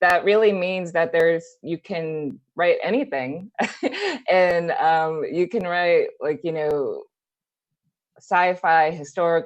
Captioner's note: laughs